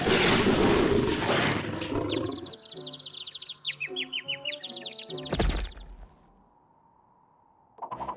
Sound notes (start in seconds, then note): 1.6 birds chirping